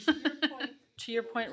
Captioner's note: laughing